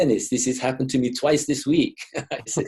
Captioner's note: chuckles